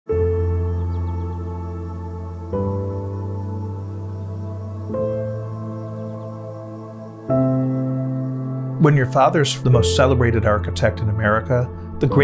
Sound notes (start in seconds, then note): 0.1 birds chirping; 0.2 serene music